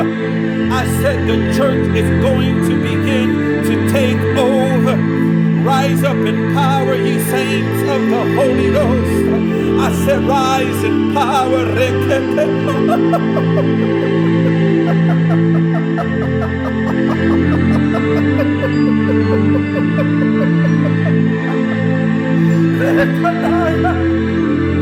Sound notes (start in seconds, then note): 12.0 gimiendo y hablando en lenguas espirituales; 12.0 weeping speaking in spiritual language